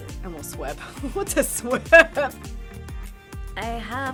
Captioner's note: laughing